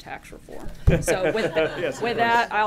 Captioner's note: laughter